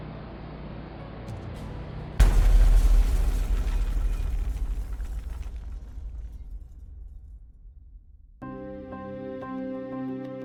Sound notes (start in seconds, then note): 1.5 airplane crashing; 8.4 melodic music